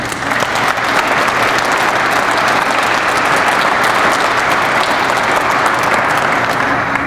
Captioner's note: crowd applauds